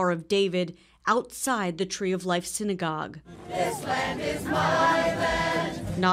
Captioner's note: crowd; cheers